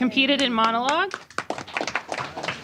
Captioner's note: applause